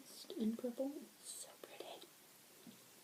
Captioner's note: whispered